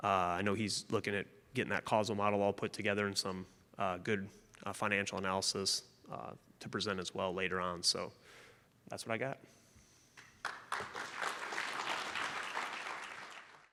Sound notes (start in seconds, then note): 10.4 round of applause from audience